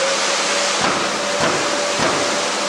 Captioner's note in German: Lautes Surren und Klappern